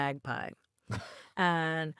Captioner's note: chuckling